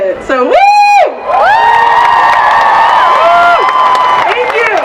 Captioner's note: cheering